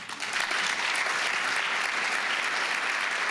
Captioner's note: applause